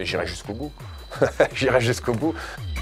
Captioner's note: laughter